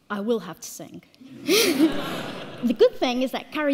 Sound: all laughing

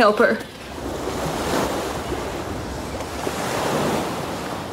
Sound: rushing waters

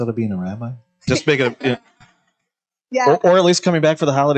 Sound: laughs

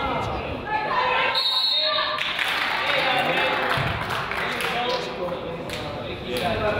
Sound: whistle blows; crowd applauds

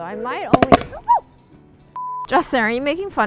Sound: fire explodes

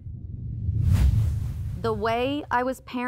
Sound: air quivers

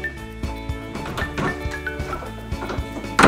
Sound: door opening; door closing

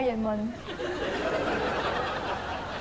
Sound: laughters

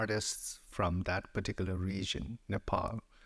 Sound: none

